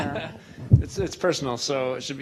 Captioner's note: voiceover